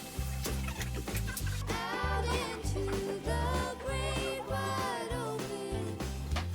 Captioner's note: laughs